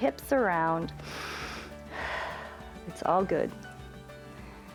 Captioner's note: inhales and exhales